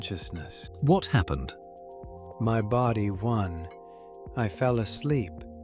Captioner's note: matter-of-factly